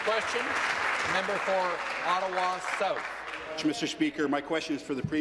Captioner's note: applause